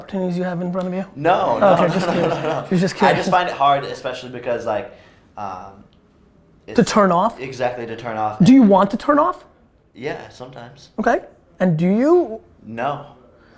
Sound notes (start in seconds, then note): 1.4 group laughter